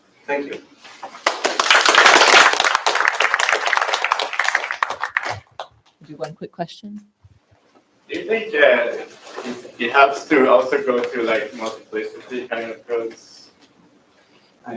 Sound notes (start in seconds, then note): 1.1 applause